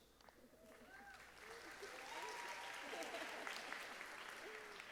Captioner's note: audience applauding